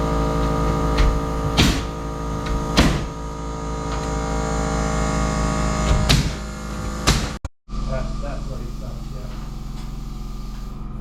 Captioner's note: motor whirring